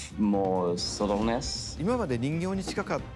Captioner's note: Miyamoto speaking Japanese